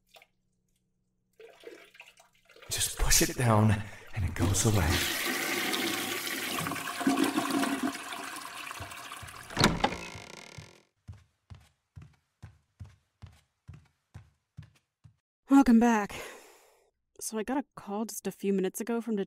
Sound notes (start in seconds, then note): 7.7 door opens; 7.7 toilet flushes